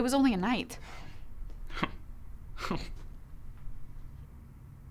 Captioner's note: sighs